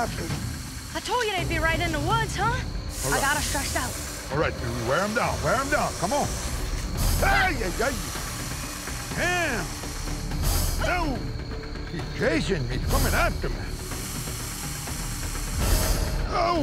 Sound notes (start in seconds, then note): 9.3 hissing